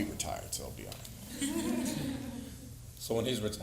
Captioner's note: audience laughing